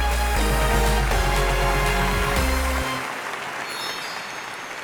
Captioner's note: upbeat music; audience applauding fades